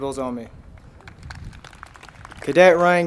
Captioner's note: crowd applauding